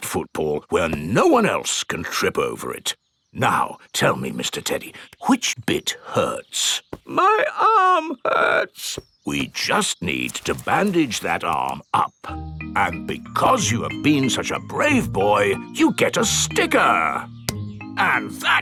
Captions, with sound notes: Let's put that football where no one else can trip over it. Now, tell me, Mr. Teddy, which bit hurts? (IN TEDDY'S VOICE) My arm hurts. (IN NORMAL VOICE) We just need to bandage that arm up. And because you have been such a brave boy, you get a sticker!